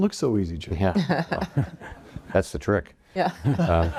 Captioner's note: panel laughs